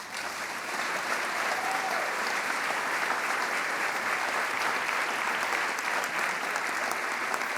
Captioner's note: applause